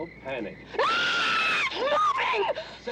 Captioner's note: screams